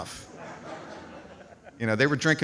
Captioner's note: audience laughs